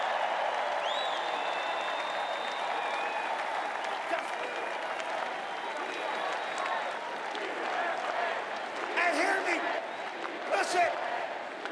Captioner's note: cheering and applause